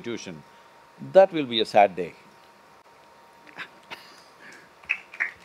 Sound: Manish Laughs; applause

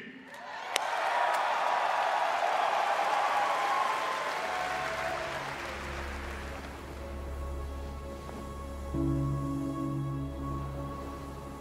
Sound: cheering

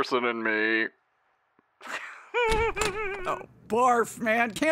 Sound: Rey giggles

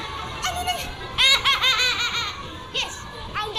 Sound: laughing

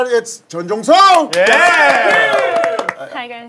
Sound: sound of clapping

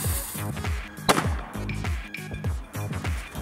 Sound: rubber Band Ball Explodes

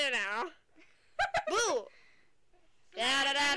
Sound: laughter

